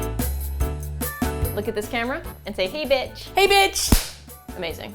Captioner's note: clap